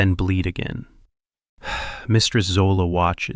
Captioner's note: sighs